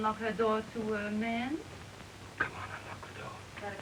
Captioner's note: whispering